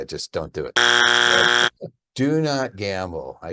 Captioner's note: buzzer blaring